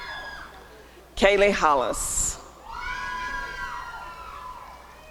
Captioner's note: applause and cheering